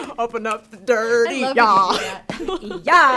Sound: laughs

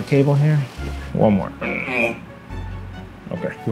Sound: grunts

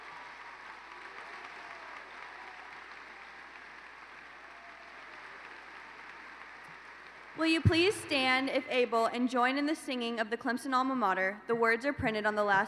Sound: applause

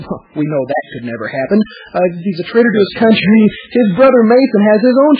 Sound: laughs

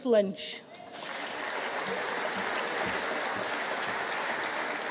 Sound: audience cheering

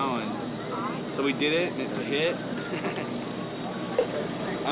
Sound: laughing

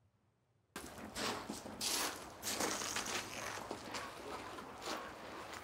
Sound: footsteps whirring

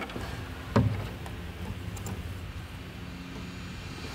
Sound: piano thuds

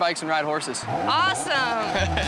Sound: dirt bike revving; laughing

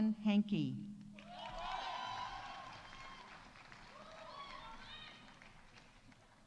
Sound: audience cheering; audience applauding

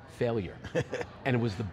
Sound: laughing

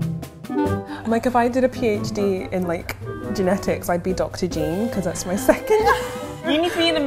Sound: laughs

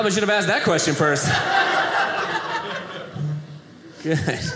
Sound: audience laughing

